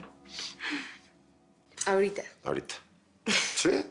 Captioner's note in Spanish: Risas